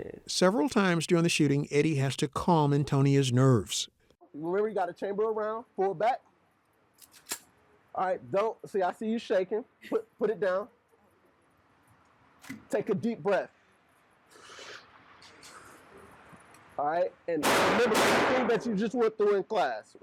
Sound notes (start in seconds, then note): 7.1 slide clicks; 14.3 breathing deeply